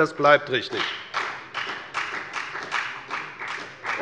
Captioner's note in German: Beifall bei der FDP